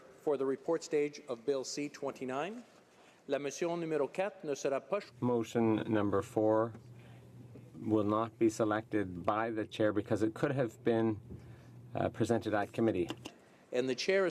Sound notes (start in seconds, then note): 9.1 speaking French